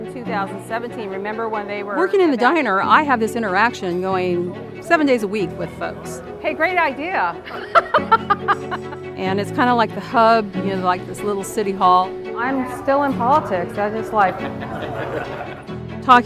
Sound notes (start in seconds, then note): 0.0 upbeat instrumental music; 7.4 laughing; 12.4 customers laughing